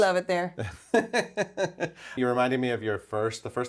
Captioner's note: laughs